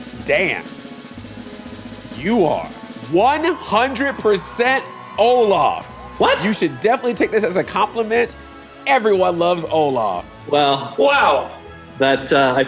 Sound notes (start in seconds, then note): 3.0 cheering